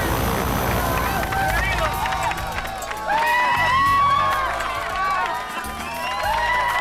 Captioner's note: group applauds; group cheers